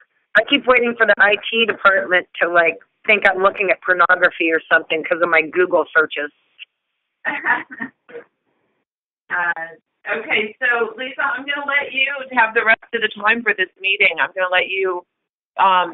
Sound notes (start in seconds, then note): 7.2 laughter